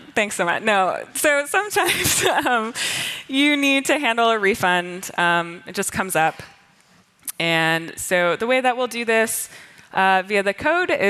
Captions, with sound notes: Thanks so much. No. So sometimes [LAUGHTER] you need to handle a refund. It just comes up. And so the way that we'll do this via the code